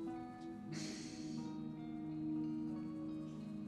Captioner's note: Mitch sighs